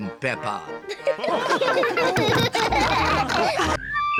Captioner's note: chuckles; all laugh